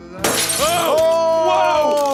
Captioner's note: glass shattering